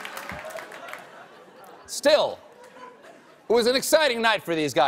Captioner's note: cheers and applause